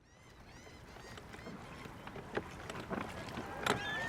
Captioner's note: seagulls squawking